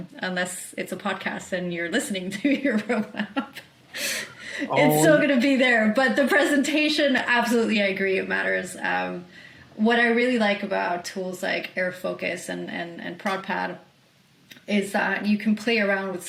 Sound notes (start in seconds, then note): 4.6 laughs